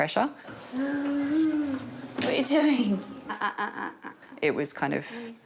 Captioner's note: babbles